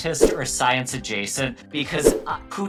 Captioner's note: graphic fwipping